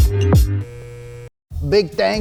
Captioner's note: beep